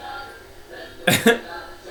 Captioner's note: laughs